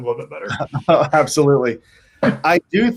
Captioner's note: chuckles